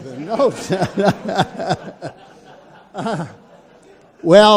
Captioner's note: audience laughs